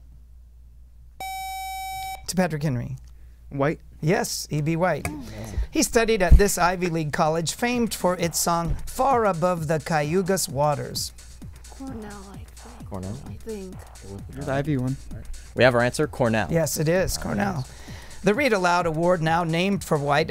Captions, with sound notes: [Buzzer] To Patrick Henry. White. Yes, E. B. White. He studied at this Ivy League college famed for its song, Far Above the Cayuga's Waters. [Wispering] We have our answer, Cornell. Yes, it is Cornell. The Read Aloud award, now named for White